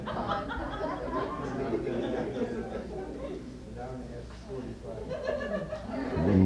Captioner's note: laughter and comments